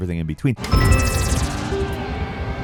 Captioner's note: electronic chiming; spaceship whirring